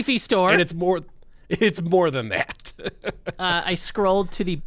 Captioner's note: laughs